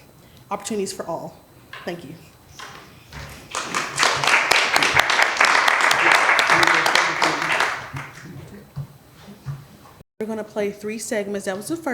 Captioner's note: applause